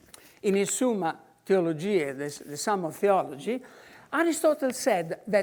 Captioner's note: in foreign language